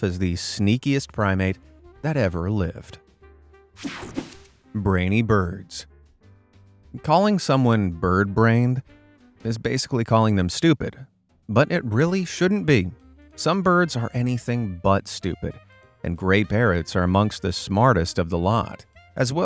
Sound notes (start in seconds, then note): 3.8 air whooshing